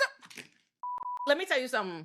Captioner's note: beeping